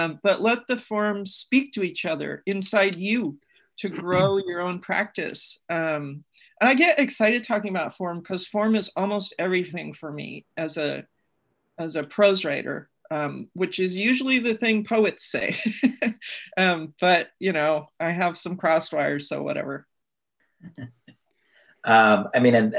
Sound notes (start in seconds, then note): 15.5 laughs; 20.7 laughs